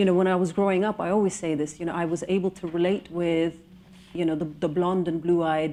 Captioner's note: none